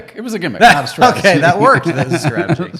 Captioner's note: laughing